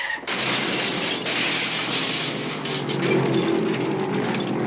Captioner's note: wheels screech; metal clatters